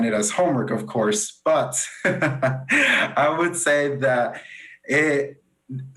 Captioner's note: laughs